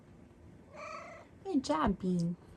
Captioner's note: meows